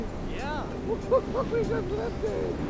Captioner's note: laughs